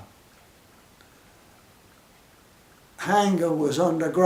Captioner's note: pause